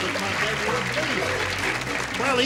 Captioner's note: applause